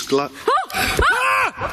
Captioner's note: exclaims; screams